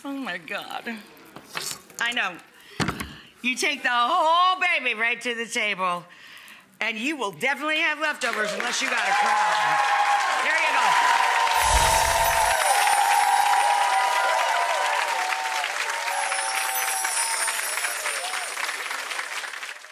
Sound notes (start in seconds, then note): 9.8 audience cheering; 11.5 chime tinkling